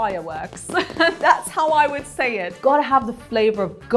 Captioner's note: laughs